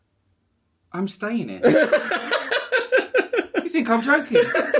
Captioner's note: laughing